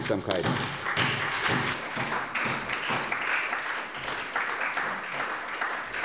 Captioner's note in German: Beifall bei der SPD